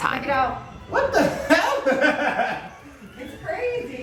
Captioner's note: laughs